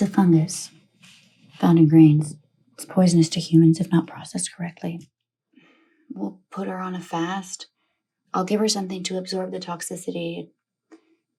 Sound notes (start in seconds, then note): none